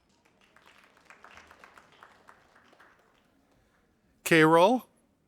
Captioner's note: audience applauding